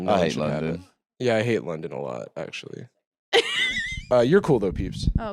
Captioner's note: laughs